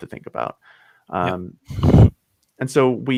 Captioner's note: laughs